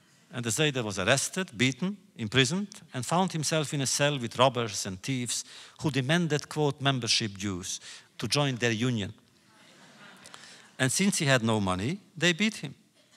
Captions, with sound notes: And the Zeide was arrested, beaten, imprisoned, and found himself in a cell with robbers and thievers who demanded, quote, “membership dues,” to join their union. (laughter) And since he had no money, they beat him.